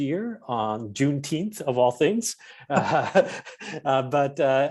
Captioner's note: chuckles